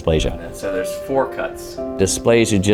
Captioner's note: doctor talking